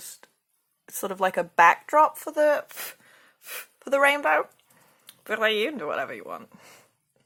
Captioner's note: blows on brush